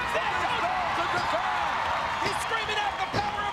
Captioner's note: crowd cheers